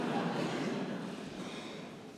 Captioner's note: laughter